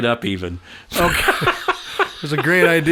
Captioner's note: laughing